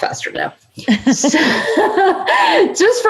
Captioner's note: laughing